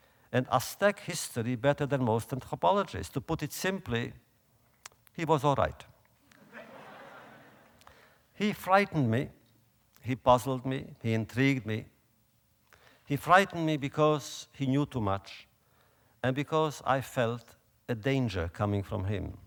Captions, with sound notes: and Aztec history better than most anthropologists. To put it simply, he was all right. (audience laughter) He frightened me, he puzzled me, he intrigued me. He frightened me because he knew too much, and because I felt a danger coming from him,